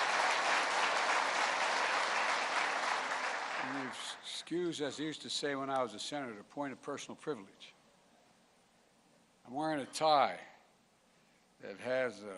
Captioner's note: applause